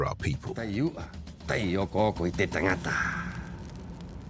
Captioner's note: speaking Rapanui